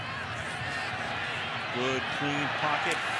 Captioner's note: cheers, applause